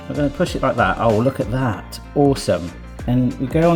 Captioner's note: none